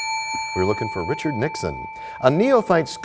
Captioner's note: bell rings, time expires